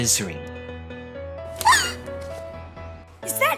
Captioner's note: Shoko yelps